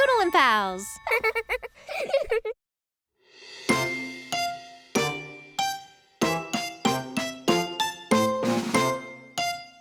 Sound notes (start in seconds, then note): 1.0 children laughing; 3.4 playful music